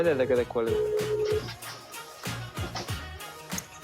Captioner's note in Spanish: Tono de llamada